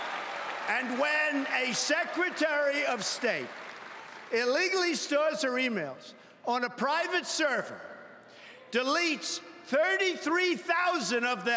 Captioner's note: cheering and Applause